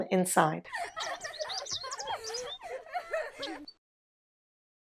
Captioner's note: children laughing, birds chirping